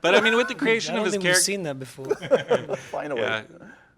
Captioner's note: laughter